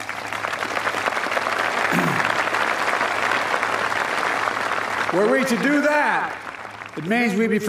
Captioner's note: applause